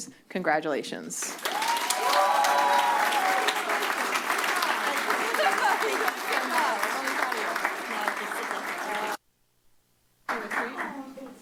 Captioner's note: applause; cheers